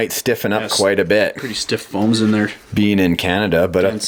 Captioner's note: voiceover